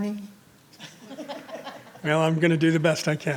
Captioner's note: group laughs